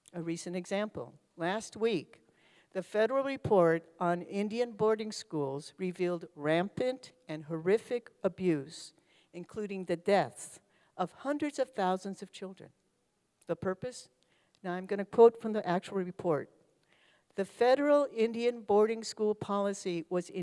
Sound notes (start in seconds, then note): none